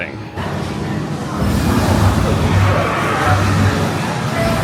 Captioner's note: electricity crackling